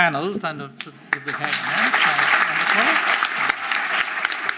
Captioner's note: applause